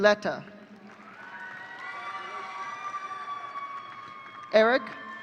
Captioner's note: audience cheering